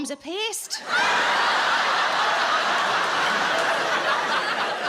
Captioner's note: audience laughing